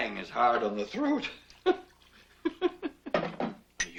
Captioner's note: laughs